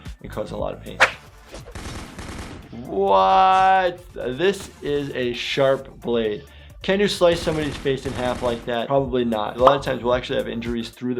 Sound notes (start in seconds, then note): 1.0 gun shots